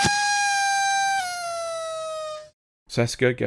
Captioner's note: party toy noise